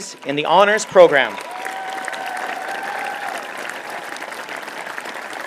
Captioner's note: applause